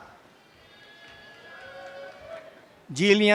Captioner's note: audience cheering and applause